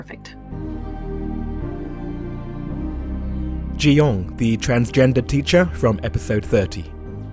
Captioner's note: voiceover